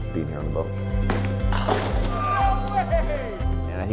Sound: pins clatter

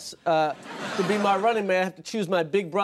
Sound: audience laughing

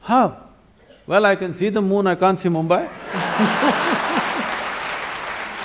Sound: laughter and Applause

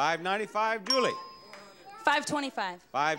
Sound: bell dings

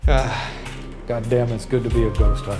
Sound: sighs

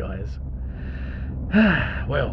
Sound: sigh

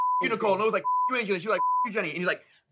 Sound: beep

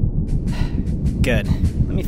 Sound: sighs

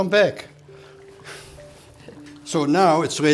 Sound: chuckling

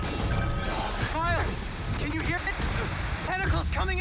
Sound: static

